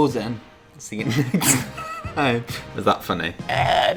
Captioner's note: laughs